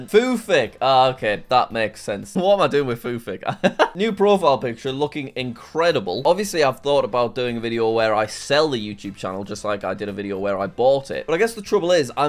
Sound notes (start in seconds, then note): 3.4 laughs